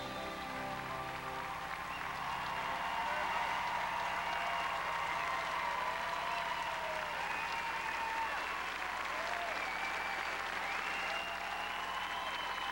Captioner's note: crowd cheering